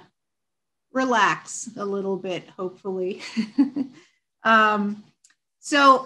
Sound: chuckles

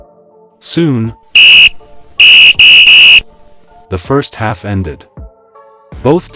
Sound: whistle

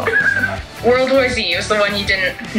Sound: laughs

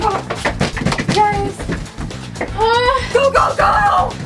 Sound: mom knocking on door

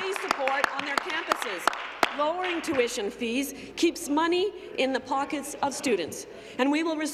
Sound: applause

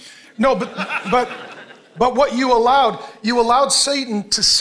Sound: congregation laughing

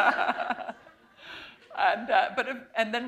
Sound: laughter

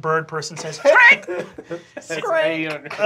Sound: laughter

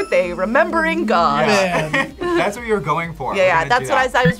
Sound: laughs

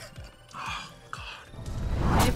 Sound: laughs; whispers

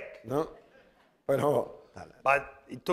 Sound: speaking spanish

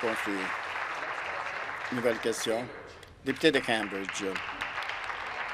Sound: applause

